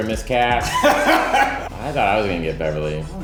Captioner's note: laughing